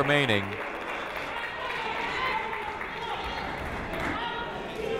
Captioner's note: crowd clapping